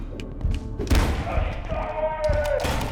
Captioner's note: gunshots